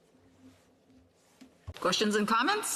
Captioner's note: speaking French